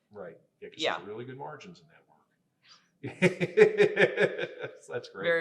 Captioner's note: laughing